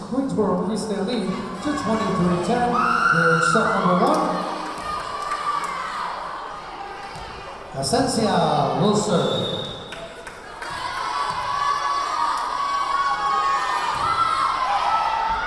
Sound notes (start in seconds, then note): 5.3 yelling; 9.2 whistle blowing; 11.9 yelling